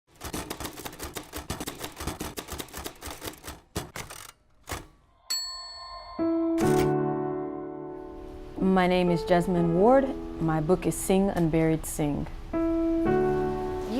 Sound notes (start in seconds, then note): 0.0 typewriter clacking; 6.0 soft piano music